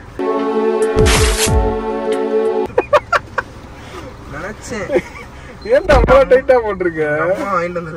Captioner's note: Tear sound; laughs